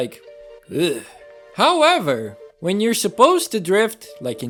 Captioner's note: blergh